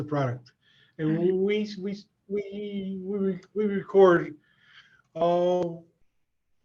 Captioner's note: voice muffling